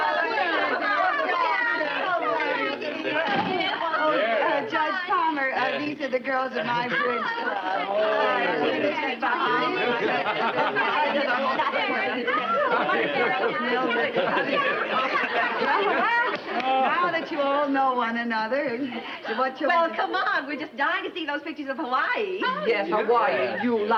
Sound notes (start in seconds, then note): 0.3 women chattering loudly; 7.3 loud hellos and chattering; 16.3 claps